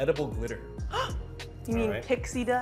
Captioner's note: gasping